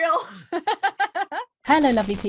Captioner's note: laughing